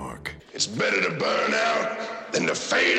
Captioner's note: raspily